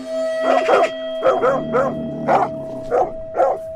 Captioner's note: barking dogs